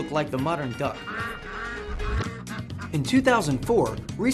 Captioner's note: duck quacks